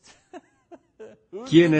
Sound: laughs

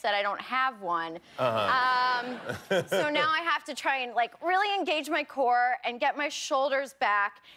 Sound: laughter

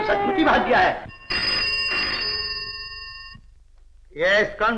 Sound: telephone Ringing

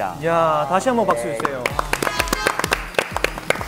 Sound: again clap clap clap

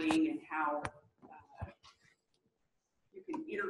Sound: pause

